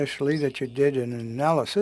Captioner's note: speaking French